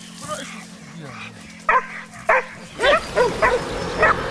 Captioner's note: dogs barking